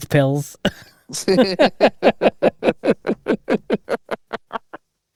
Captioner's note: both laughing